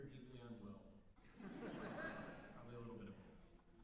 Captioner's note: laughter